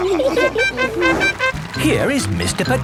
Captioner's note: all laughing; horn tooting